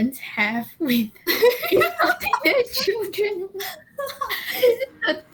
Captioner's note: laughing; laughs